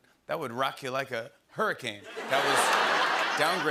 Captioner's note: laughter